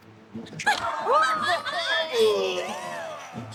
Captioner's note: laughter